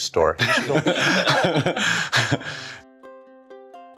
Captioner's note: laughs